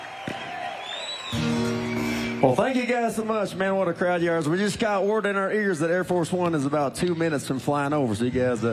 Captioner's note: cheers and applause